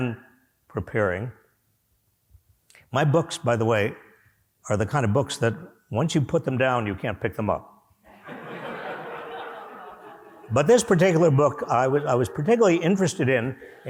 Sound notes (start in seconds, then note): 8.1 laughter